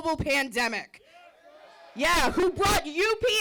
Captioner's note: crowd cheering